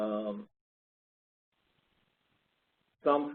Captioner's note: 2 seconds pause